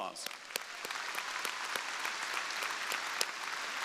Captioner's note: crowd applauding